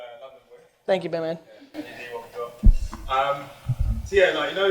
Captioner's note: murmurs; murmurs